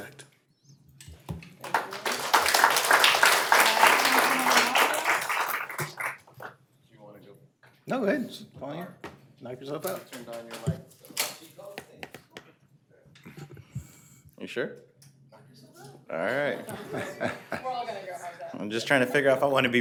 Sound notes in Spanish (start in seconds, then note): 3.8 aplausos